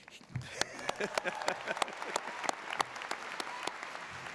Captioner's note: audience applauds